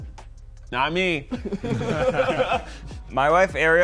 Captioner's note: all laughing